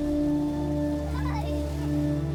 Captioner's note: children playing